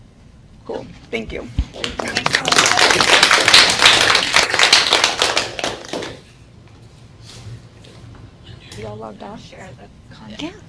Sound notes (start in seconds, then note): 1.8 clapping